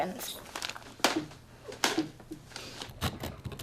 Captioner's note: thudding noise